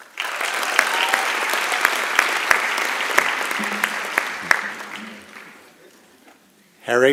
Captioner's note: applause and Cheering